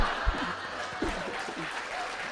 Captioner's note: laughter; applause